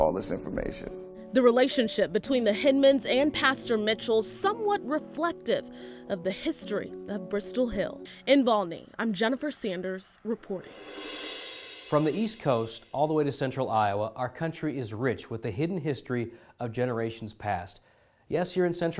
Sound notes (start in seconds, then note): 10.4 swoosh